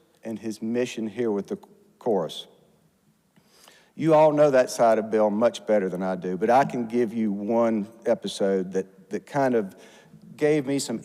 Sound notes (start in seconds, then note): none